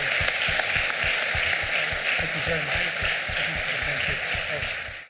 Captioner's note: applause